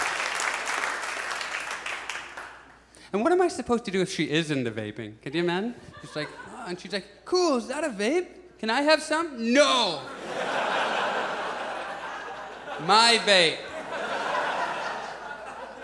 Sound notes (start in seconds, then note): 0.0 audience applauds; 10.0 audience laughs